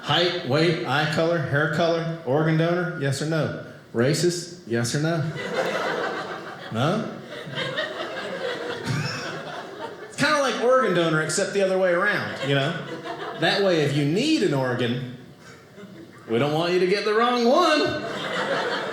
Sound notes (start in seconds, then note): 7.4 audience laughing